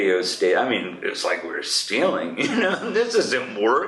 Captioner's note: laughs